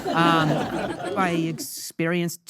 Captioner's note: audience laughing